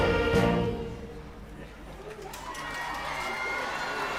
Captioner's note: applause